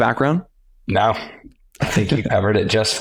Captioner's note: chuckles